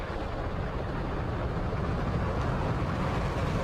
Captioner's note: rocket engines blasting